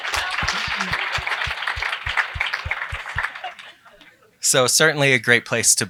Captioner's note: applause